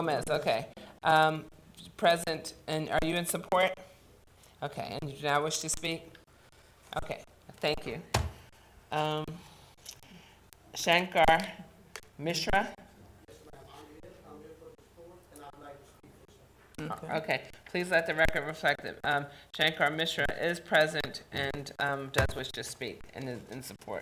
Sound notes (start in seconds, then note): 12.9 talking quietly